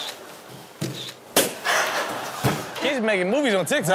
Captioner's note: camera clicks; balloon pops